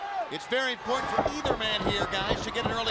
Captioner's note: crowd chatter